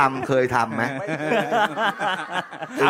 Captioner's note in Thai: เสียงหัวเราะ